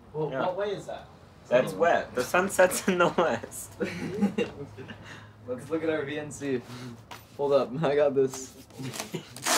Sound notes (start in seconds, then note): 3.6 boys chuckle; 3.8 chuckling